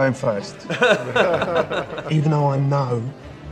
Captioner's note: laughing